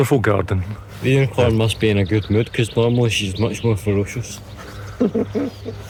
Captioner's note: laughter